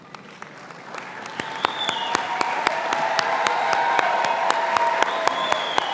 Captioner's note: audience applauding and cheering